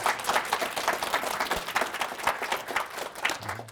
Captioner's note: audience applauds